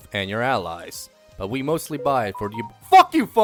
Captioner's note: phone notification